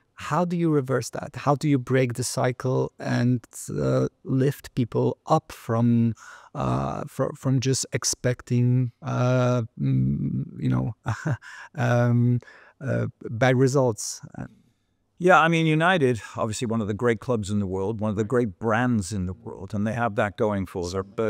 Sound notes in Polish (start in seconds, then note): 11.0 śmiech